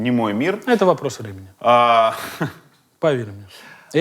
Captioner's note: laughs